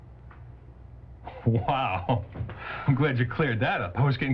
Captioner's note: chuckles